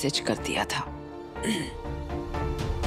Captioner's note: clears throat